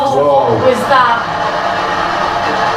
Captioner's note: white noise